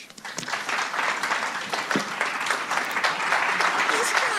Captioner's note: applause